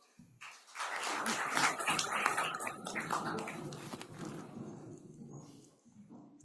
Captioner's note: applause